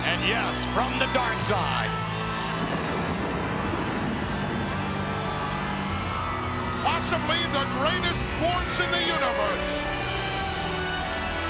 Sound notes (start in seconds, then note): 3.1 thunder rumbles